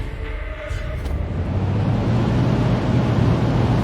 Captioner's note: deep breath